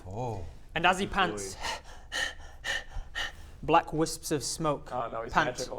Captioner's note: heavy breathing